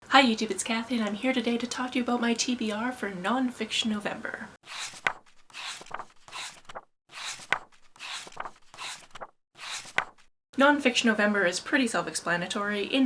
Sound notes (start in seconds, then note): 4.6 pages turning